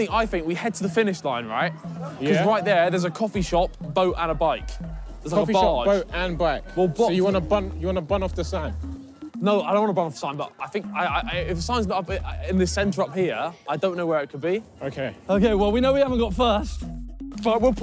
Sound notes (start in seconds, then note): none